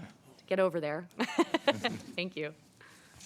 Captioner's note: laughs